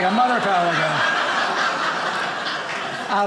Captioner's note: audience laughing